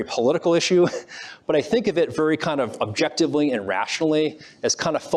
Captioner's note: laughs